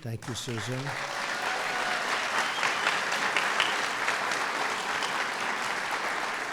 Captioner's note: applause